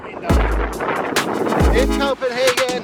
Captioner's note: wind whipping